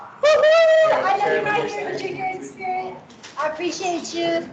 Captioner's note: cheers